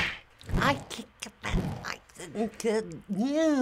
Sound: stutters

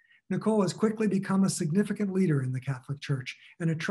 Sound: none

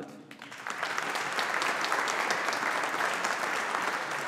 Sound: audience applauding

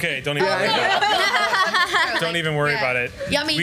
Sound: laughs

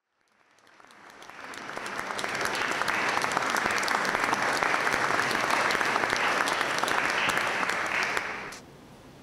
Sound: applause

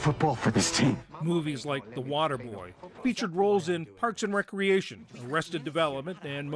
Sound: voice-over

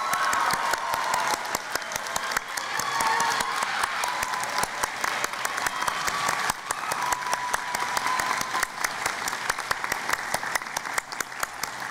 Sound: cheering and Applause

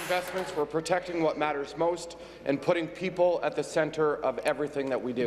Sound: applause

